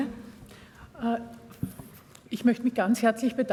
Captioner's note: speaking german